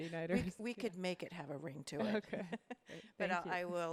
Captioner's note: laughs